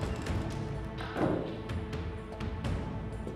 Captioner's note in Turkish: Kapı kapanma sesi